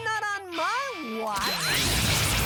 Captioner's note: energy hums